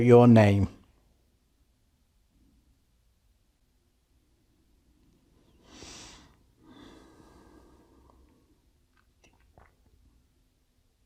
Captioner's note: silence